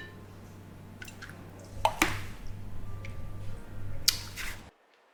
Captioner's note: glasses clanking